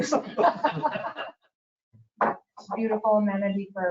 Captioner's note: people laughing